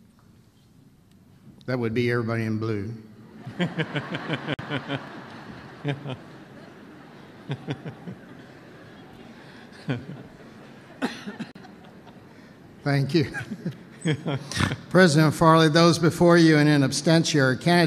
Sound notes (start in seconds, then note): 7.8 laughter